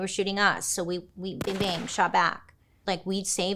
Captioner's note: gun booming